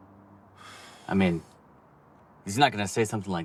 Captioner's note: Lance exhaling